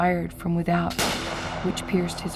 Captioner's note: gunshot